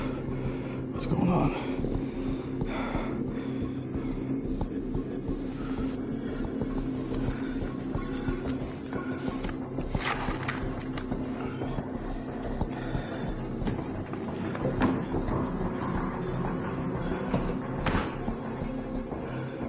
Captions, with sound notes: What's going on? (breathing heavily) (suspenseful music)